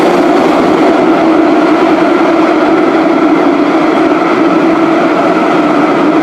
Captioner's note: braking